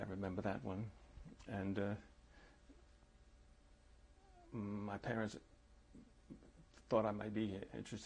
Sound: pauses for 3 seconds

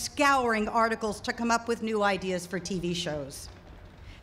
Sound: none

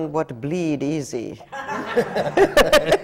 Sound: laughter

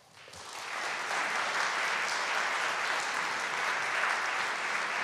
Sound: audience clapping

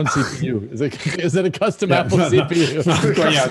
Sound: laughing

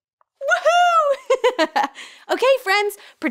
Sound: laughing

